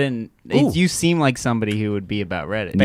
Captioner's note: snaps fingers